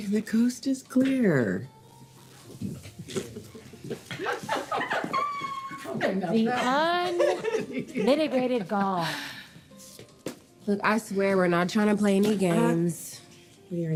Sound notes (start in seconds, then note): 3.2 women laughing